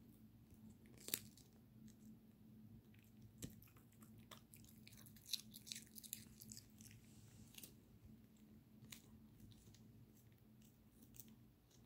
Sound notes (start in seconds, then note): 0.9 cabbage breaking sound; 0.9 양배추 부러지는 소리